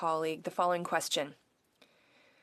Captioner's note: speaking French